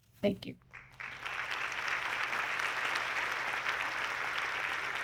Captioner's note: audience clapping